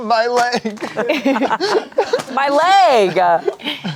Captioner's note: everyone laughs